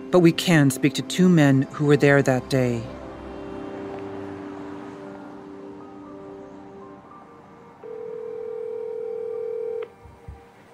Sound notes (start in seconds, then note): 5.6 phone ringing